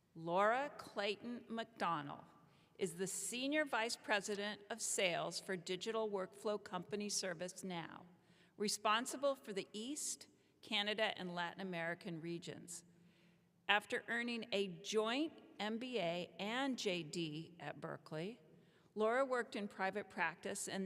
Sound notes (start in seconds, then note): none